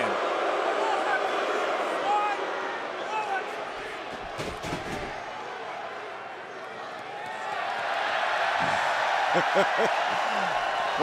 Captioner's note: crowd cheering